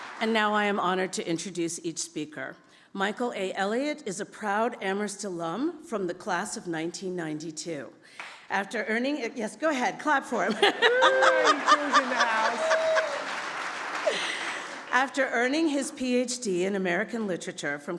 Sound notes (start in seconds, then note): 10.6 laughs; 13.6 audience applauds